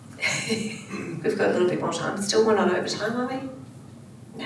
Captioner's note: laughs